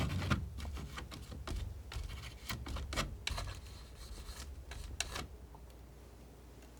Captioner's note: scratching